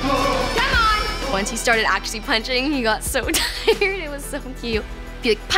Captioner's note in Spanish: riendo